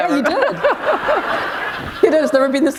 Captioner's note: laughter